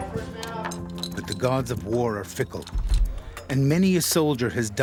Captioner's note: voiceover